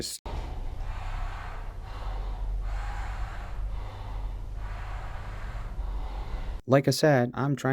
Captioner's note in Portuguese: Respira profundamente